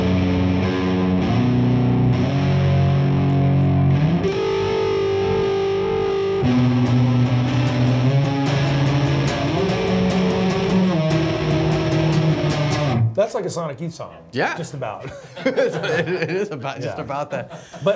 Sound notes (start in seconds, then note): 8.2 grunge rock electric guitar chords; 14.9 laughing